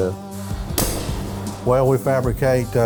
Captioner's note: mallet clanking